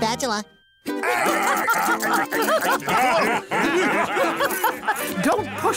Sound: laughing

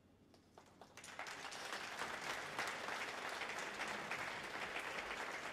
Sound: audience applauds

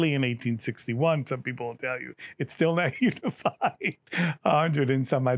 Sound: laughs

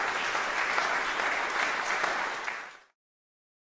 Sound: applause breaks out; applause fades

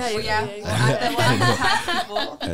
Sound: laughs

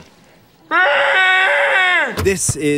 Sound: screaming

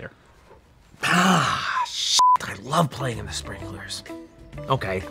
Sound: beep

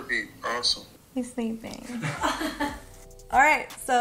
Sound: all laugh

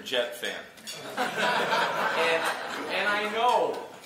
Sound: laughter

